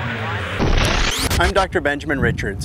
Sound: static

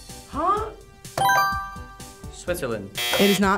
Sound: buzzer chimes; buzzer blares

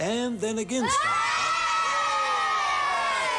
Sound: children shouting

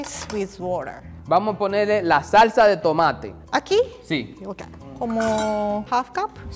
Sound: speaking in foreign language

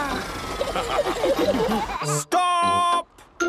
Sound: all laughing

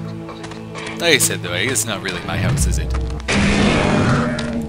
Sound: gunfire and monster roars

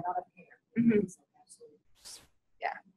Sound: voiceover

